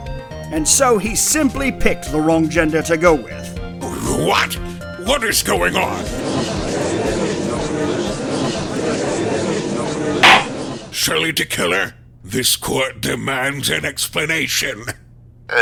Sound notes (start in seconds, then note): 6.0 gallery chattering; 10.2 gavel slams!